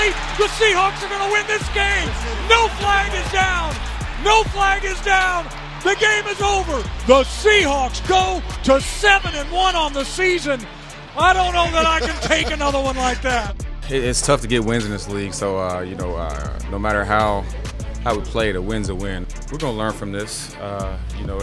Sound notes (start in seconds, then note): 11.3 commentator laughing